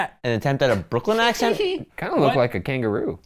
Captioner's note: rat laughs